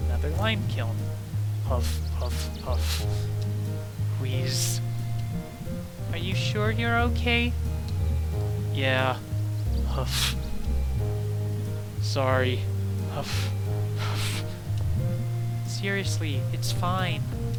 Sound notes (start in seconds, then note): 4.0 wheeze; 9.9 huff